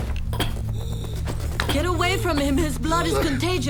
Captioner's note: coughing